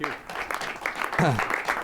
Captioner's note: applause